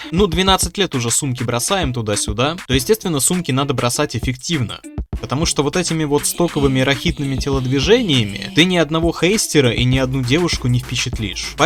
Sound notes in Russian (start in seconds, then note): 6.4 кряхтение на фоне